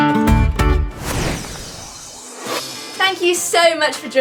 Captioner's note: air whooshes